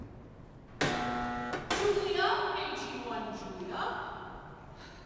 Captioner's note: buzzer